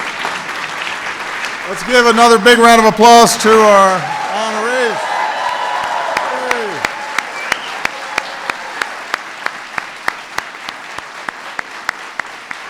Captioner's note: applause